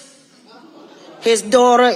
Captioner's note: audience laughing